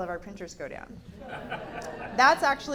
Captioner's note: laughter